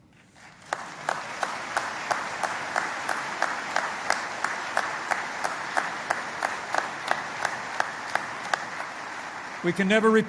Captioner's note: applause